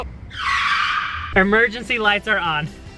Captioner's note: tires screeching